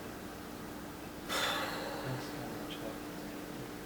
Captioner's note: deeply sighs